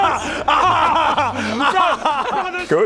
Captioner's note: totally cares cry-laugh